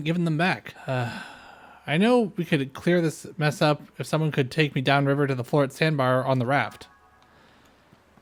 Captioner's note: sigh